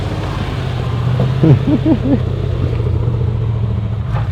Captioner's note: laughing